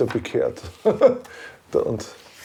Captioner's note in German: Lachen